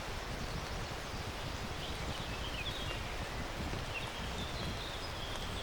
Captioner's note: birds chirping